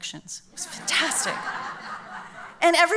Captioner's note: laughs